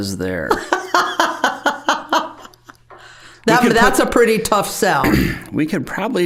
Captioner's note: laughing